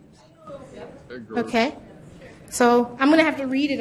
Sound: voiceover

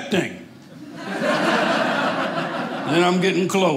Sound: audience laughing

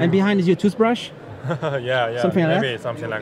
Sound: laughs

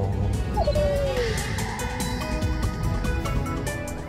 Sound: dog whimpering; upbeat music

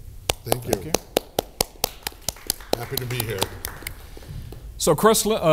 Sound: applause

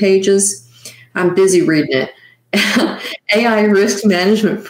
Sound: chuckling

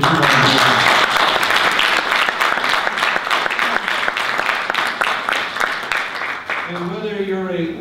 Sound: audience applause

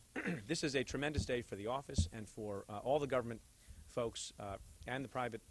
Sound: clears throat

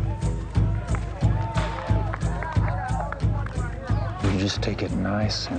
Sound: people cheering

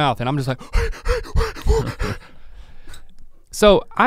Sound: panting dramatically

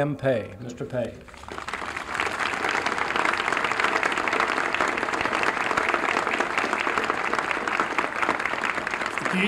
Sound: applause

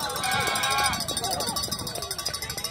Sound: cheering

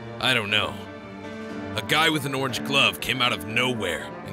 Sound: none

